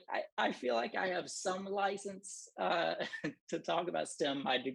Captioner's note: laughter